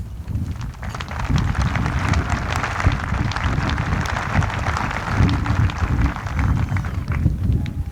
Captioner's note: applause